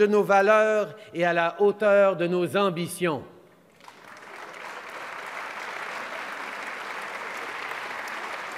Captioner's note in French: Applaudissements